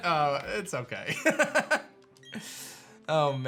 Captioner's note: laughs